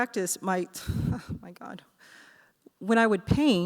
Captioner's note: laughs